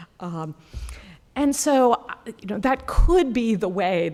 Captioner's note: none